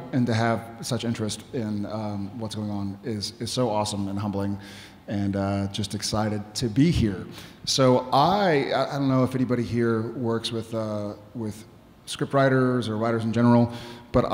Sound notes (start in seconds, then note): none